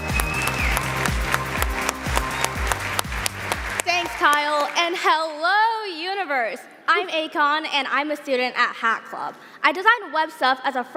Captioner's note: applause